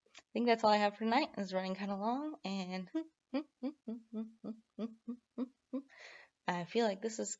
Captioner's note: hum